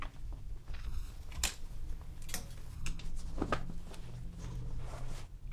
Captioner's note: hangers rattling continues